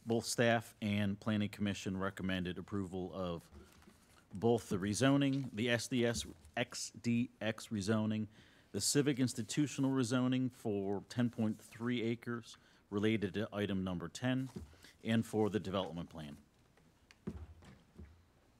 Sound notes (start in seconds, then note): none